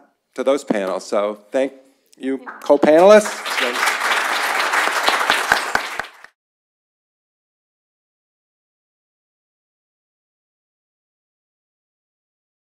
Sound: applause

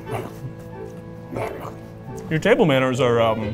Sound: grunting

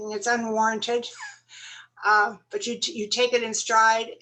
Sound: laughter

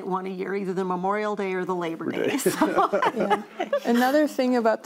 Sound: all laugh

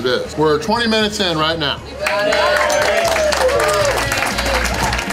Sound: crowd cheering

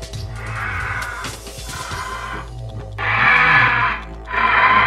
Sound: Gallimimus sounds

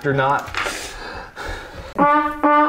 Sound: sighs exhaustedly

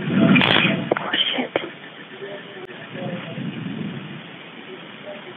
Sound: taser buzzing

